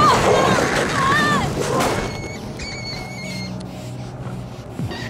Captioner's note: mouse squealing